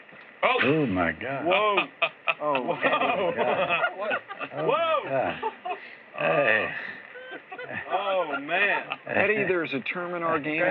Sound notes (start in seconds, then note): 1.7 laughs; 6.3 laughter